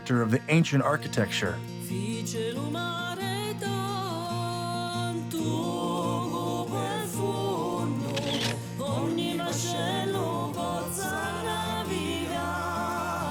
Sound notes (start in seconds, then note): 2.1 singing in foreign language; 8.0 camera flashing